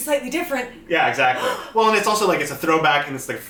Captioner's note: mock gasp